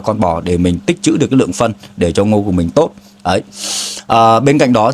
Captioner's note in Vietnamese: khịt mũi